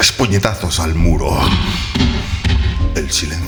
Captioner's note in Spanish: toc, toc, toc